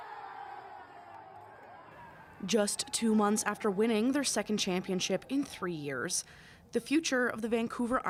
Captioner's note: cheering